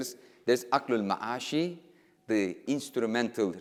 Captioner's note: speaking in foreign language